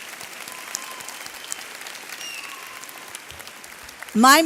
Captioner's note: audience clapping